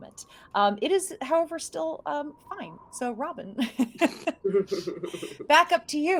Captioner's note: laughing